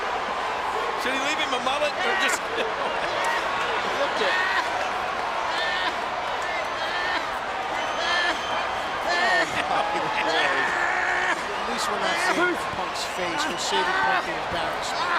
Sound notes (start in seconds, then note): 7.7 applause; 7.7 laugh